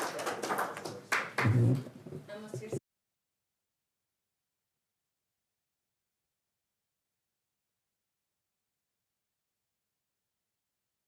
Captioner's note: applause